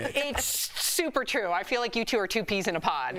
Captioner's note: laughter